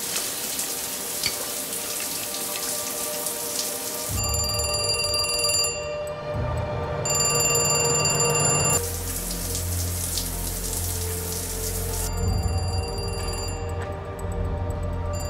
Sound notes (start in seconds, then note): 4.2 phone ringing; 6.5 oven fan blaring; 8.8 loud running water; 12.4 phone ringing distantly